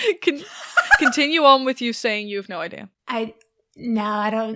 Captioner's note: laughter